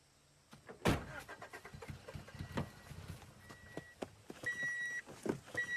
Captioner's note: car engine cranking and beeping